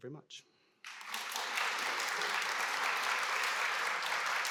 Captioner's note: applause